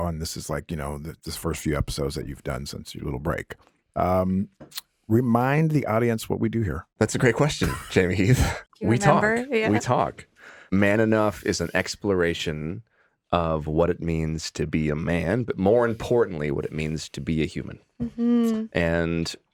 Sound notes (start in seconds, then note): 7.4 laughs